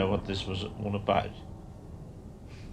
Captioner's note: none